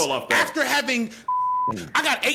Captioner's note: beep